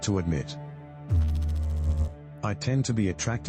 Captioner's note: electrical noise